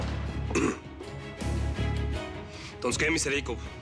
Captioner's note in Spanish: carraspea